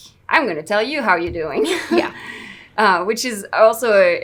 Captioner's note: laughs